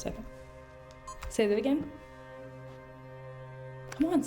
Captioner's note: camera beeps